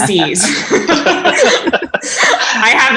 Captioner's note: group laughing